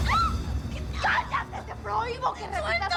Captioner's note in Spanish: Grito